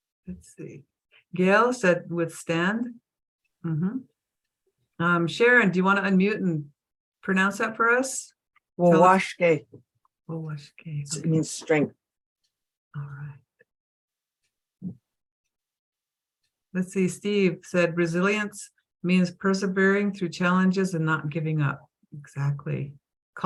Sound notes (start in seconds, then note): 8.9 speaking foreign language